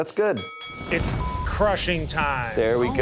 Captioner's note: bell dinging; beep